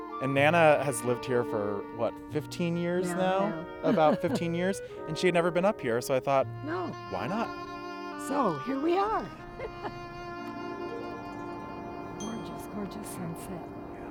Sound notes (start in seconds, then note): 9.3 laughing; 13.9 peaceful music